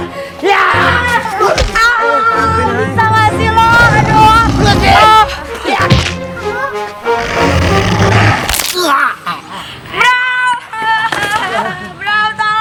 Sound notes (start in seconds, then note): 6.5 angry mumbling